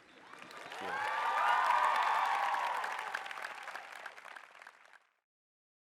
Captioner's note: applause